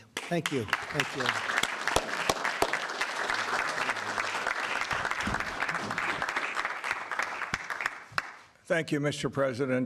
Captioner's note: applause